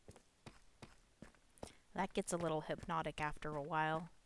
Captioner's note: sound of Minecraft character running along the bridge